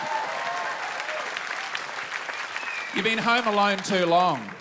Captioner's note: audience applauds and whistles